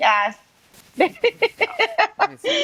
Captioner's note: laughs